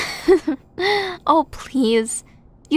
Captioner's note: giggle